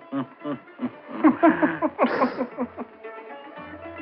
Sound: laughing

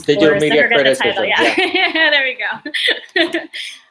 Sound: laughing

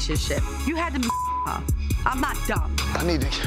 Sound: beep

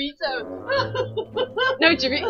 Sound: hur hur hur

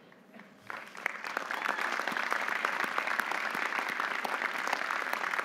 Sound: audience applauding

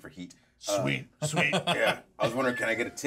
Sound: speaker laughs

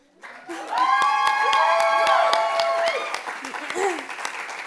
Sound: loud cheers and applause

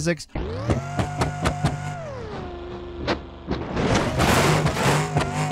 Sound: car engine revving; car crashing

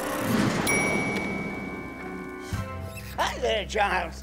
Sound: bell dings

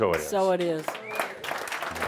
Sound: applause

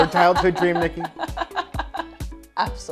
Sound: laughs

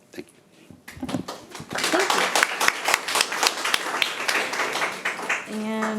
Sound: audience applauding

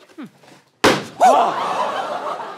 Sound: small explosion

